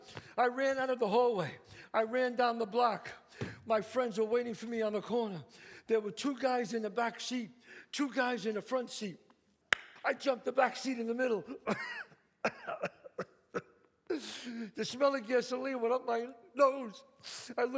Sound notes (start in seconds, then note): 9.7 claps; 12.4 coughs; 12.4 sobs